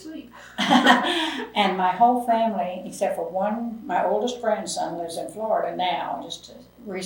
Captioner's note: laughs